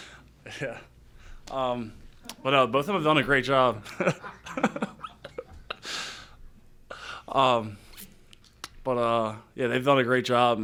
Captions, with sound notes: Yeah. But both of them have done a great job. [LAUGHTER] But yeah they've done a great job.